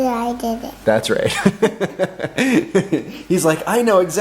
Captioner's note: laughter